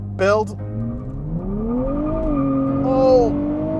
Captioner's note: car engine revs